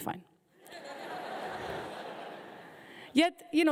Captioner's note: audience laughing